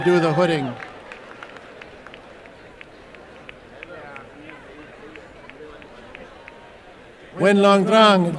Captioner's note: applause and cheering